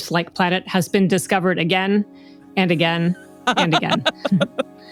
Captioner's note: laughs